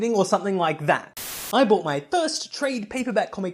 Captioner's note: Static